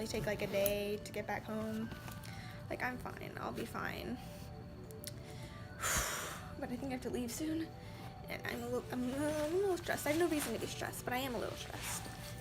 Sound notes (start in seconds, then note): 5.2 exhales; 8.3 stutters